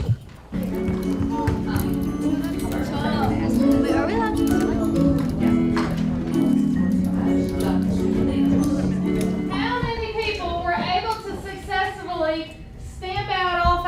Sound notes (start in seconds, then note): 0.4 bright music; 4.0 students chattering